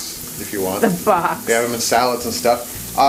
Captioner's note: laughs